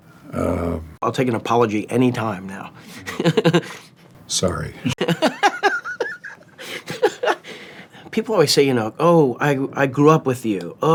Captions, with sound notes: I'll take an apology anytime now. - Sorry. - (laughs) People always say, you know, "Oh, I grew up with you.